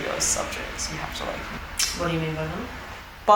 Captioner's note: tongue clicks